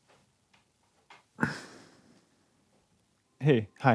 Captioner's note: sniffs; then exhales